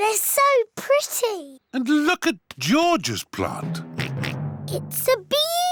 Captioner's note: oinks